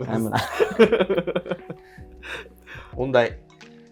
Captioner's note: laughing